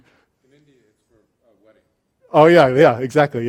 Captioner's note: voiceover